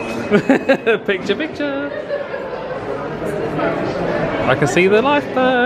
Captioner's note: laughs